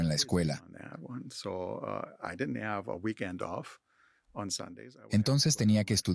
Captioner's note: Hablando idioma extranjero